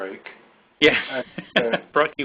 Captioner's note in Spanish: risas